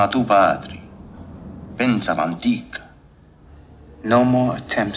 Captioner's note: speaks italian